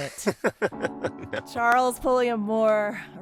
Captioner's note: laughter